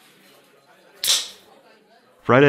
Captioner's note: tab pops